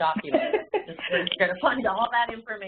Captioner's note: laughing